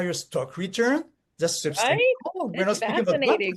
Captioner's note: speaks faintly